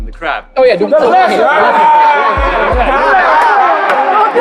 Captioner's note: loud cheering